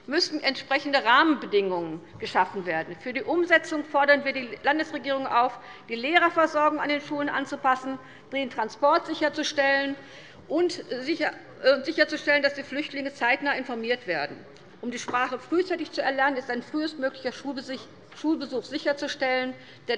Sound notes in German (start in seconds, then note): none